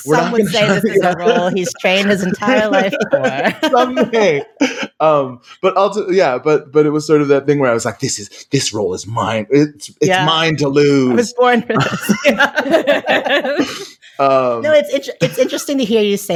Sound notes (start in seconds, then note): 4.6 laughing